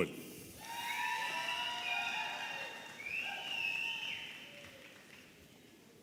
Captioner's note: audience applauding and cheering